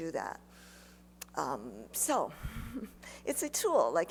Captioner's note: chuckles